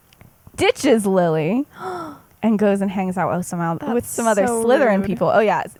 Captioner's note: gasps